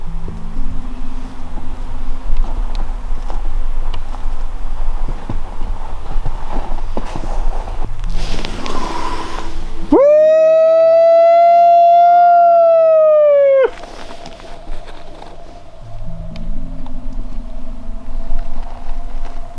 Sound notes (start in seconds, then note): 10.0 howling; 16.9 wind blowing